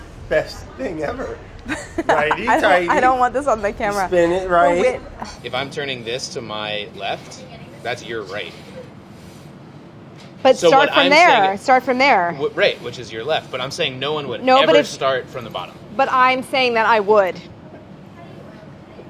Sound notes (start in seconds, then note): 1.6 laughing